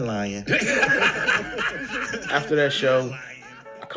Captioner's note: all laughing